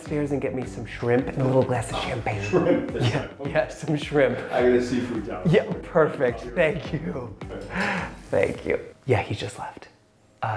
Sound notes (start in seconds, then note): 2.2 laughs; 7.6 laughs